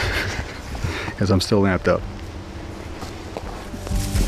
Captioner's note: laughs